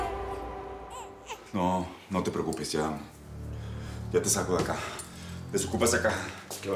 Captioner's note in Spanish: Llanto del bebé